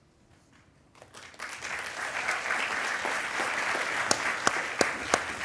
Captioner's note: attendees applauding